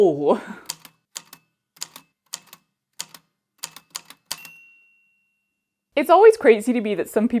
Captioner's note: A typewriter clicks away, then dings